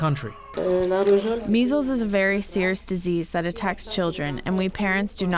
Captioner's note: through translator